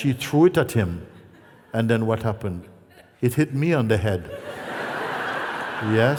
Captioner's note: laughter